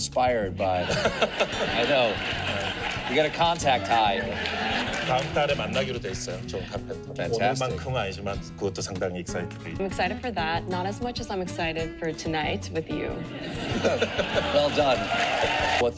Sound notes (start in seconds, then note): 14.0 cheering lol